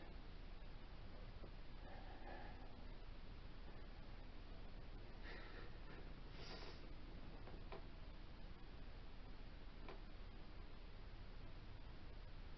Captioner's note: whisper counting and grunts/sighs of exertion